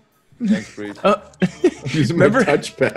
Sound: laugh

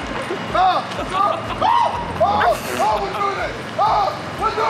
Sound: JJ screams

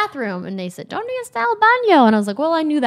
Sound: speaking Spanish

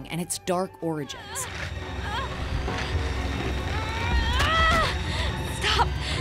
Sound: groaning

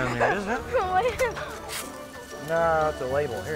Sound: giggling

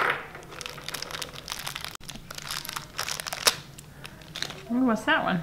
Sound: plastic crunching

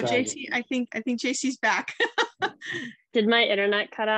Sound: laughs

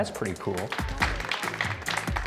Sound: applause

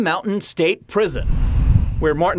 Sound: wind blowing

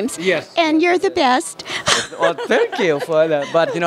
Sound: laughter

